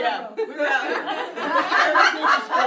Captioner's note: laughter